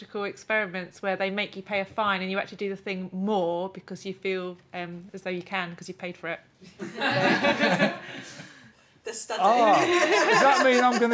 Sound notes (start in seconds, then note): 6.7 laughter